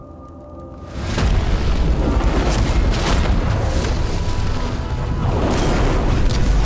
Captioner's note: flames crackling; explosions; gunfire